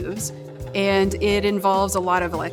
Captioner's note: machinery humming